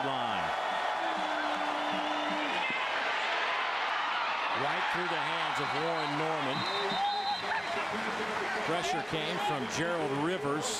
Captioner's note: crowd noise